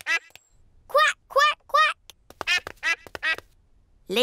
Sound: ducklings quack; ducklings quack

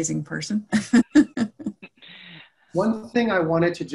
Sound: laughing

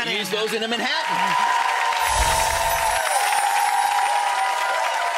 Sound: audience applauds

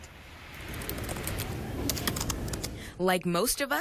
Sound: typing

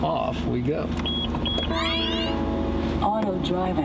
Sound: car beeps

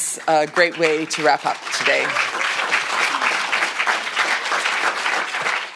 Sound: audience applauds

